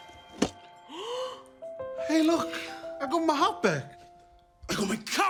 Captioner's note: gasps